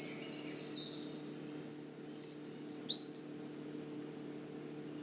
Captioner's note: brown Creeper singing